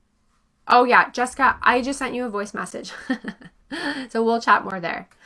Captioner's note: chuckles